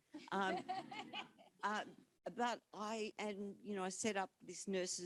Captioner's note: all laughing